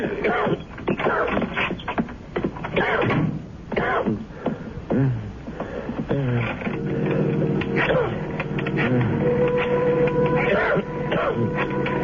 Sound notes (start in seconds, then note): 0.9 coughing; 4.8 coughing